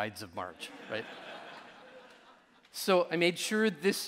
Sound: audience laughing

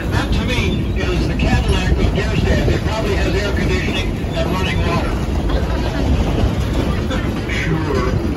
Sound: haha

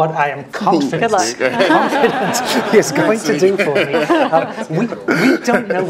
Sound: laugh

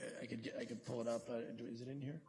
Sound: quietly

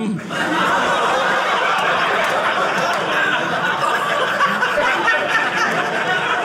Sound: audience laughing

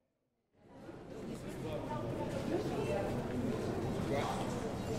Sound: crowd talking

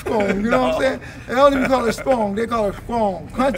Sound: laughs

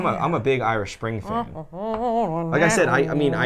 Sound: humming

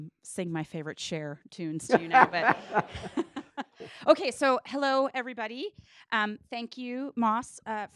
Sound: laughing

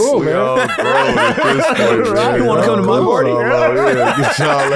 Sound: laughs

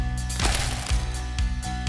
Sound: splat

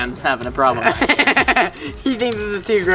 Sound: laughing

